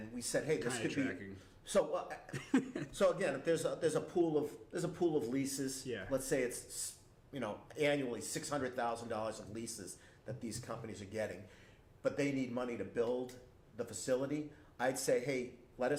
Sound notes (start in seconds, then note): 2.3 laughs